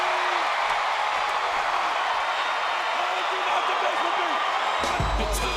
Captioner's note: audience cheering